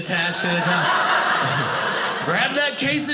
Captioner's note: audience laughing